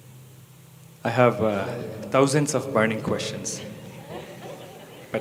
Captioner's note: few laugh